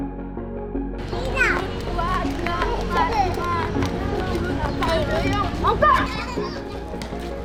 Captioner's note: kids playing